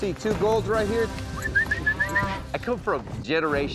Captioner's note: whistling